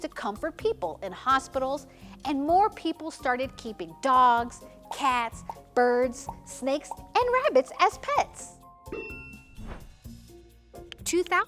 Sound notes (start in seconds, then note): 8.9 bell dings; 9.5 transition whooshes